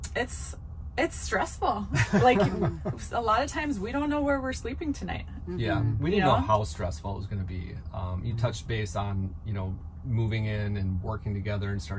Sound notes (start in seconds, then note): 1.9 laughing